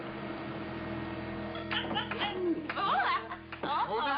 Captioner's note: laughing